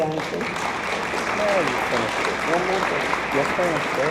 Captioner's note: attendees applaud